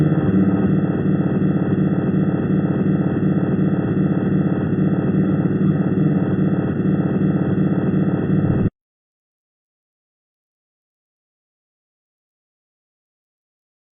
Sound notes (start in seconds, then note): 4.5 strange pulsing sound; 8.3 long silence